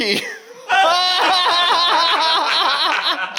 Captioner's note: laughing